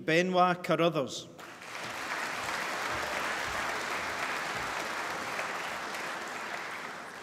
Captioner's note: applause